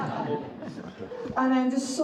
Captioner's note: audience laughs